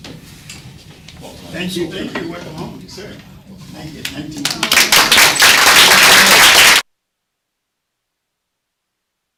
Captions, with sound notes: Welcome-- - Thank you, thank you, well I'm, sir. Thank you, 19-- (applause) (audio cuts)